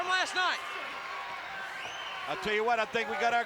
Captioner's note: applause